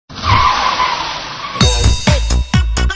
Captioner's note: tire screeching; upbeat music plays